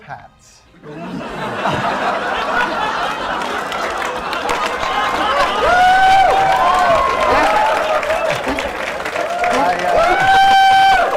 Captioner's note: laughter